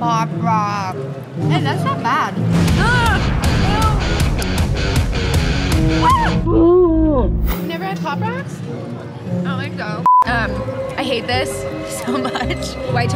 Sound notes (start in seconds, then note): 2.7 cries; 10.0 beep